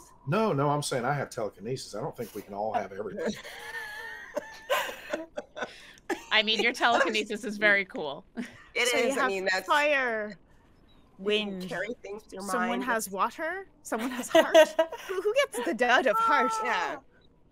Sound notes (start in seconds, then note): 2.2 group laughing